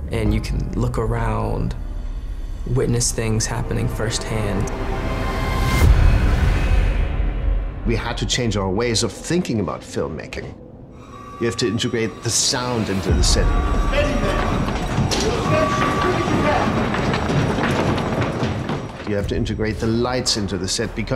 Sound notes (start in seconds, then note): 13.5 alarm; 13.9 people yelling